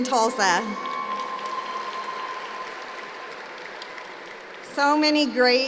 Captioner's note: applause